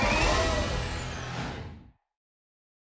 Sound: whoosh

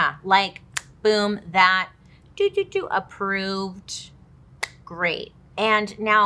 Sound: imitating computer beeping

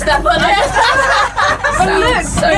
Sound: laughing

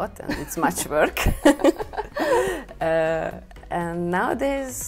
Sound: laughs

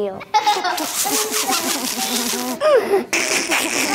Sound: children laughing

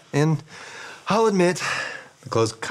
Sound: none

